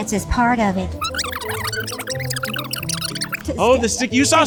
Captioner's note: video tape whirring